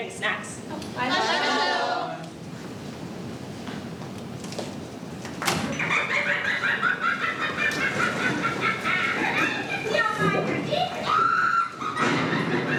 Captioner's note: evil witch-like cackling